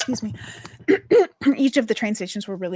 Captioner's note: clears throat